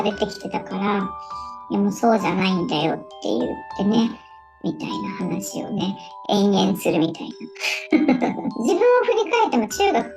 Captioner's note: laughs